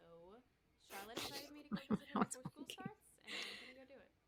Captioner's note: laughing under her breath